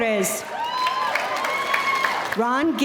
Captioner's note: audience cheering